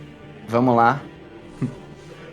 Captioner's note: laughs